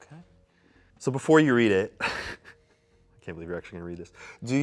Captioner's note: laughs